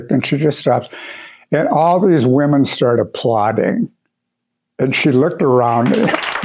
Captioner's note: clapping